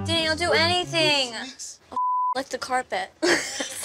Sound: beep; laughter

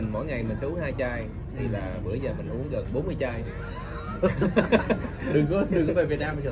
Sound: laughters

